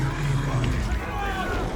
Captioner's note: screaming